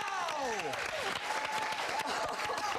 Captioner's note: applause